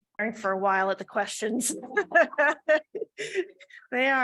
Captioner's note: laughs